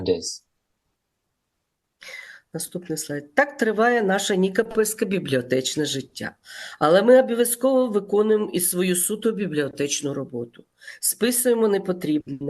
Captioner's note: foreign language